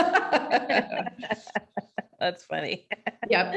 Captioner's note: both laughing